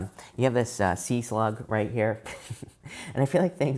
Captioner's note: chuckles